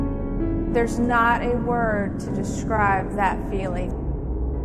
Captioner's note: voice over, female